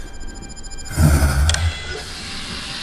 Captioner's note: grunting